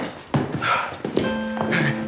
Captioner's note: footsteps tapping; slow upbeat music